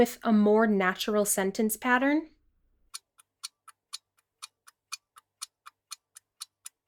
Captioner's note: clock ticking